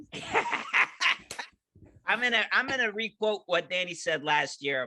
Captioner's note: laughing